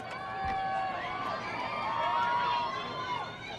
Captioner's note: crowd cheers